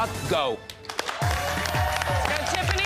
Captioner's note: cheers and applause